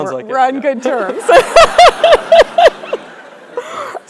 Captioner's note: laugh